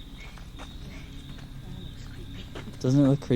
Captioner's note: car